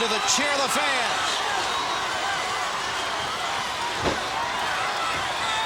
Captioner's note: crowd cheering